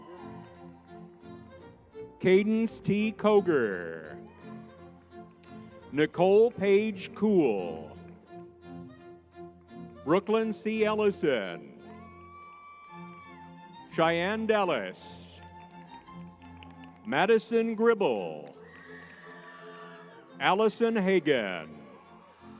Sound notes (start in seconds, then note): 12.1 audience member cheers; 18.6 crowd cheering; 22.4 lively music